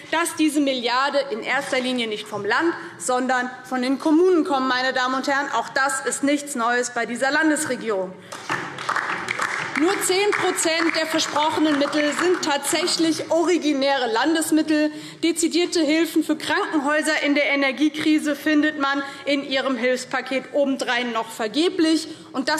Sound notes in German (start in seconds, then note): 8.3 Beifall DIE LINKE